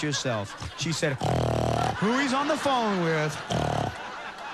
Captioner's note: snorts